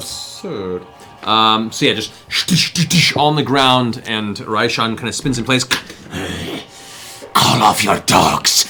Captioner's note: boom, boom, boom; growls